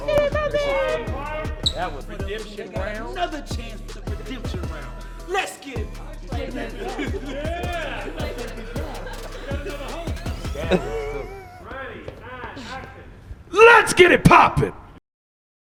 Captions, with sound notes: Let's get it poppin'! - That was redemption round? - Another chance to redemption round! Let's get it! (cheering) (laughing) - Ready, and action! - Let's get it poppin'!